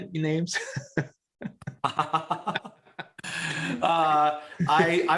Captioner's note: laughter